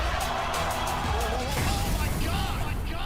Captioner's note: crowd cheering